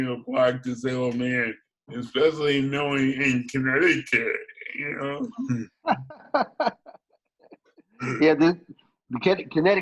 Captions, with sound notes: being a black disabled man, And especially knowing Connecticut? (laughs) - Yeah, this,